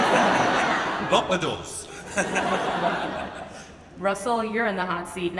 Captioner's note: audience laughs; laughs